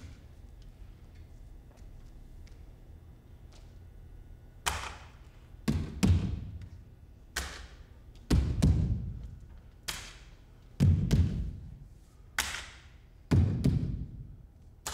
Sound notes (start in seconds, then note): 4.6 claps; 4.6 feet thumps; 7.0 claps; 7.0 feet thumps; 9.6 claps; 9.6 feet thumps; 12.4 claps